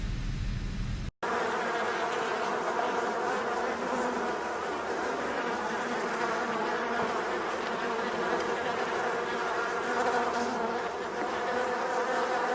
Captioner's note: flies buzzing